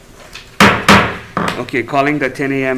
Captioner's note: gavel bangs